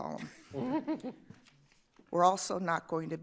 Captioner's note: laughter